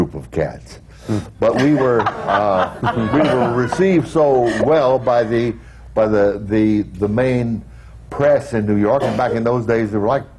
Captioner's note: laughter